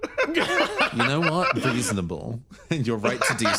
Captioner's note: laughs